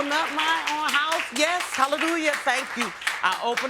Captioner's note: audience applauding